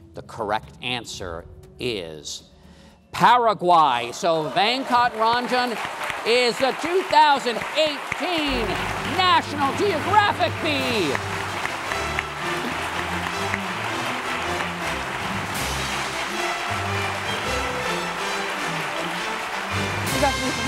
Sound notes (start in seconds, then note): 11.8 applause; 11.8 intense music